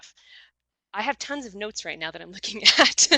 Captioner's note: laughs